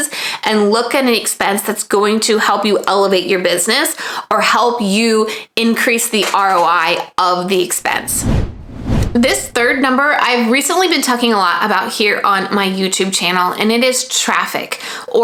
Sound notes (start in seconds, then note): 8.0 digital whooshing